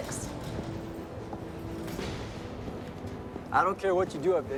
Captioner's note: footstep